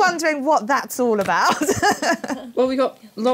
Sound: laughs

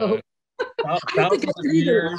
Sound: laughs

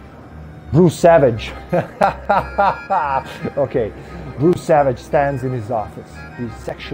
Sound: cracks up

